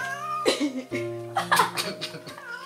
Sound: hissing and Laughter

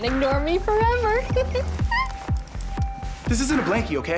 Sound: giggles

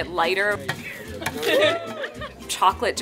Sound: laughing

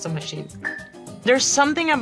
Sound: wooden block clangs

